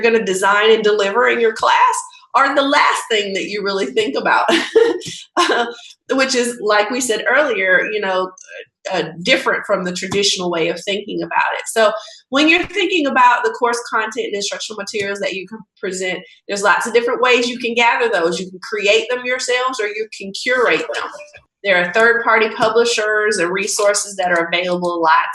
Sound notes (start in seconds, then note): 4.8 laughing